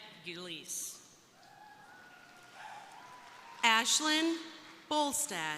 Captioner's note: crowd cheering